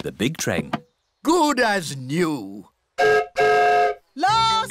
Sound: whistle blows

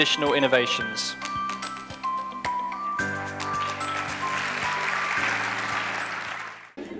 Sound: applause

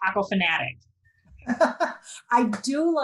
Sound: laughs

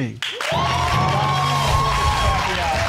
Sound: audience cheering

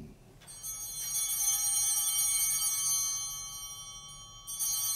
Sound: bell ringing

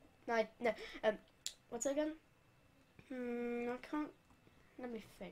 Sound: click

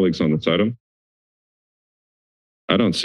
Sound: silence

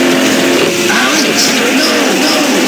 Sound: echos

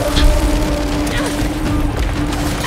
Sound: wind blowing

